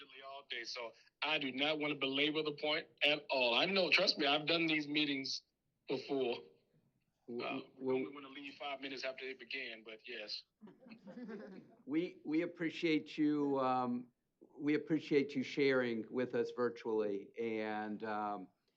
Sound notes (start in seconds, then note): 10.6 laughter